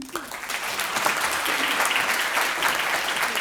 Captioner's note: applause